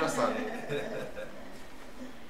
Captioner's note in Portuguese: risos